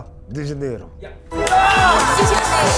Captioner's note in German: Jubel, Applaus